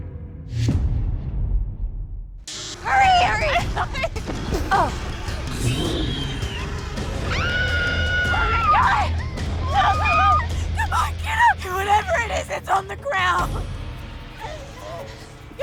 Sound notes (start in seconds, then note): 4.6 growls; 5.3 grunts